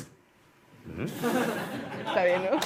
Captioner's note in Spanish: Risas